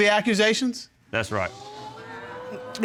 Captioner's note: audience exclaiming